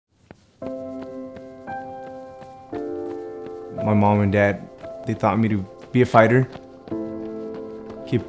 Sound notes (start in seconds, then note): 0.1 feet jogging; 0.6 gentle piano music